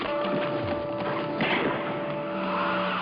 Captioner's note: gunshot